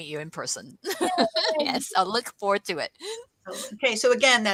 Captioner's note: laughs